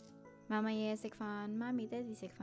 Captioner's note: Cantonese